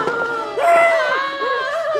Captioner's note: scream